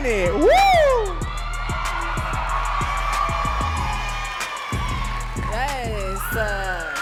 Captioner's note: audience cheering and clapping